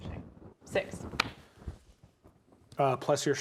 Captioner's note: hand slaps thigh